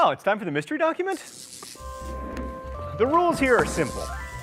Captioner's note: electricity buzzing; gentle upbeat music